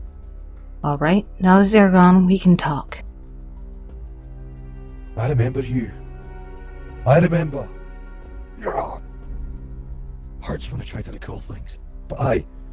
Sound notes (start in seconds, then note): 8.6 he groans